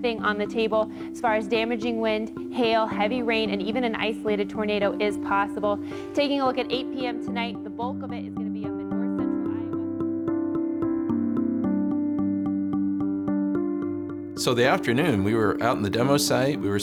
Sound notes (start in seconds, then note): 8.7 voice fades to the background; 11.3 soft music